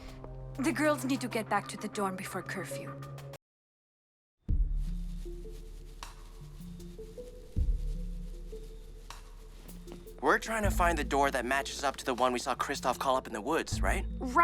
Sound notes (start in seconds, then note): 5.0 soft music; 8.5 footsteps